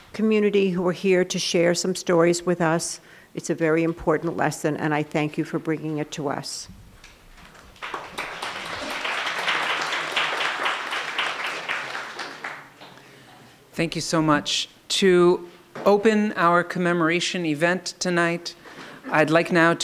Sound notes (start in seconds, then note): 7.4 applauding